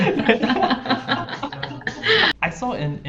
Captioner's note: both laughing